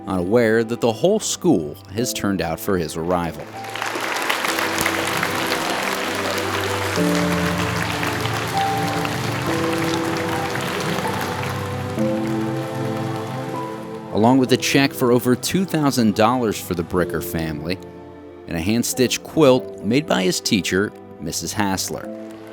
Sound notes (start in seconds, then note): 4.8 applause; 4.8 soft music